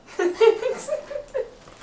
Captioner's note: laughs